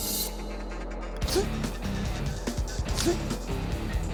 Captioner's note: grunting; heavy metal music